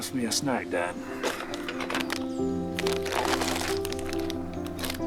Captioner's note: wrapper crinkling